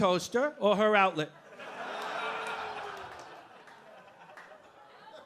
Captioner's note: audience laughing